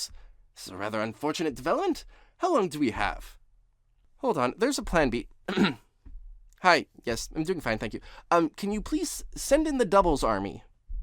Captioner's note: ahem